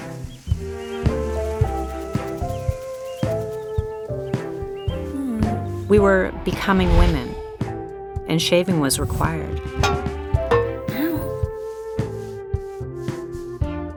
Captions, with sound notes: (moans lightly) We were becoming women and shaving was required. (owww)